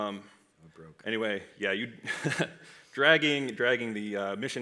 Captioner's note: laughs